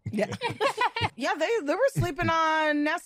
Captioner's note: laughs